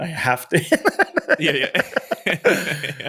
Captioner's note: laughs